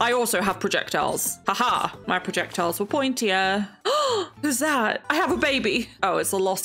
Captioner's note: gasps